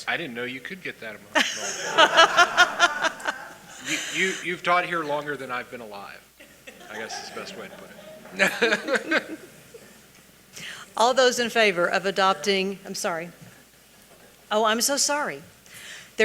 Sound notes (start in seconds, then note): 1.3 audience laughing; 8.7 laughs